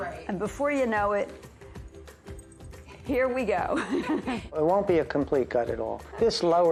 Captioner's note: laughs